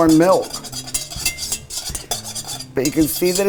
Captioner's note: whisk scraping